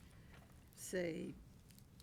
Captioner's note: none